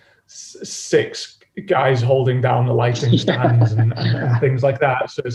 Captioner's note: laughs